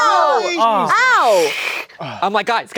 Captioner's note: hissing